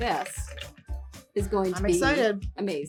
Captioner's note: clinking ice